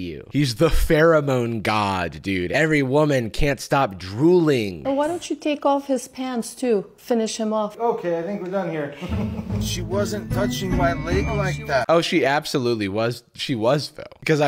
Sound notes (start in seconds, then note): 8.9 laughs uncomfortably